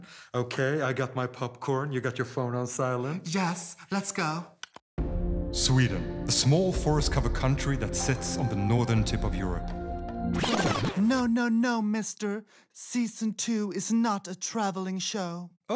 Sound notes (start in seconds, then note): 4.5 clicks tongue